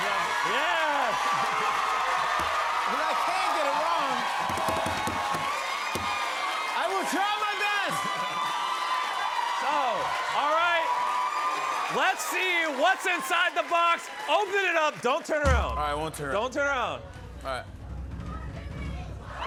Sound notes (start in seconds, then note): 4.6 cheers and applause; 18.2 cheers and applause